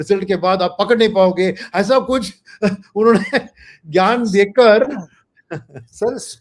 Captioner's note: laughs